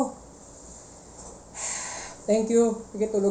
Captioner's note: sighs